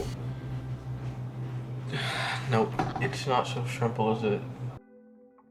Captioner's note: sigh